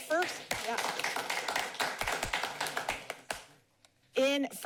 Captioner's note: applauding